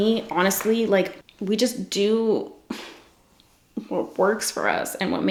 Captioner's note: sighs